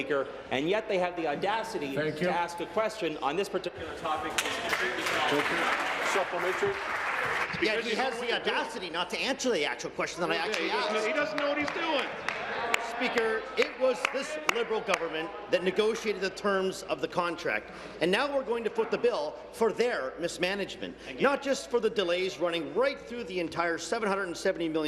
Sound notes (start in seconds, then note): 10.4 applause